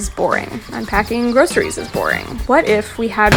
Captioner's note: podcast Voice